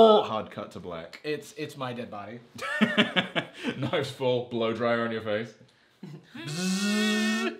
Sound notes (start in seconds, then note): 2.6 laughs